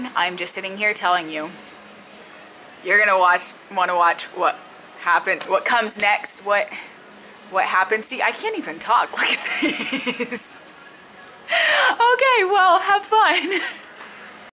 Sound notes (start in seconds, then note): 11.8 laughs